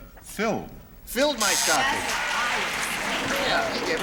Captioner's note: buzzer